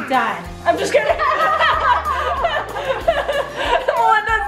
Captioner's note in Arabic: الفتيات تضحك